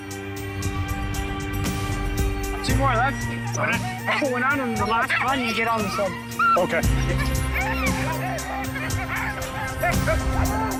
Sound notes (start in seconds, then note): 6.2 dogs barking, yelping